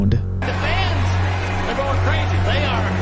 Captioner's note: crowd cheering